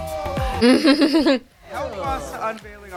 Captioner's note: laughter